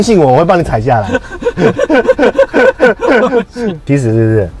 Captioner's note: sound of screeching tires